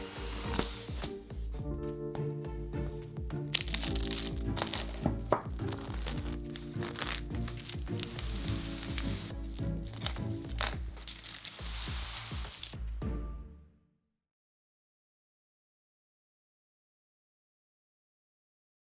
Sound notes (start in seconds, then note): 3.5 crunch